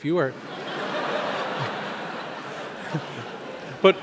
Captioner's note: audience laughs